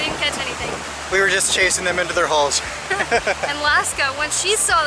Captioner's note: laughter